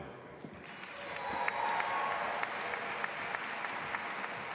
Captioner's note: audience applauding